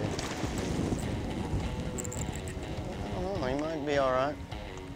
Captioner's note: water splashes